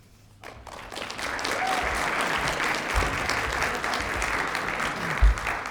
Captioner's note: applause